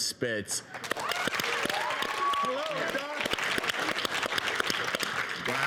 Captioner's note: audience applauding